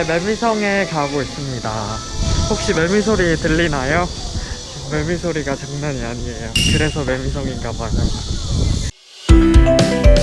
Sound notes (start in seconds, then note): 3.9 cicada